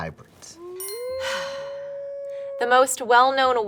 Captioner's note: sighs; wolf howling